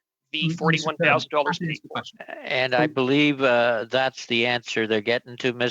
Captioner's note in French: voix de l'interprète